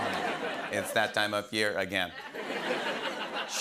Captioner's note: robotically; laughter; awws and laughter